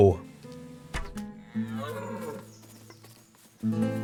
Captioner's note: stupid deer in pain sounds